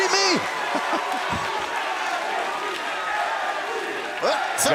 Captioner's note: crowd cheering